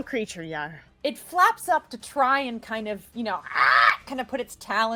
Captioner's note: squawking